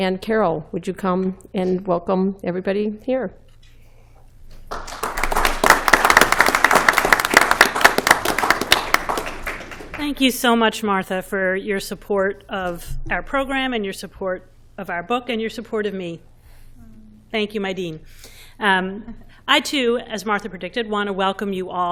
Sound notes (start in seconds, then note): 4.6 applause